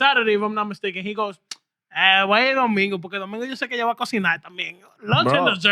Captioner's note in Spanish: Hablando en idioma extranjero